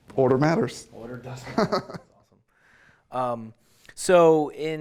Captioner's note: chuckles